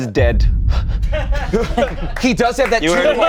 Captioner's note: everyone laughs